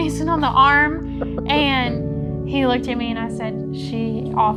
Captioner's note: laughing